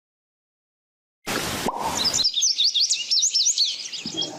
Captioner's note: birds chearping